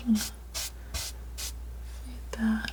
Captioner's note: scratching